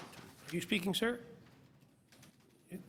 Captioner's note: applause